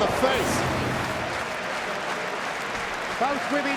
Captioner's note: crowd claps